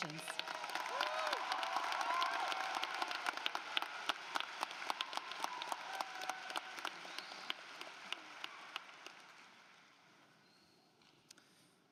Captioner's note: applause